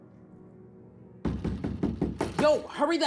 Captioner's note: knock on the door